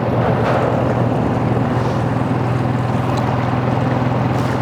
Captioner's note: motor running